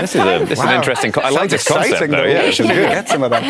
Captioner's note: overlapping chatter